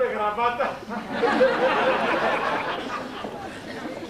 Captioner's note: γέλιο